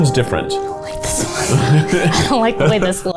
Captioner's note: both laugh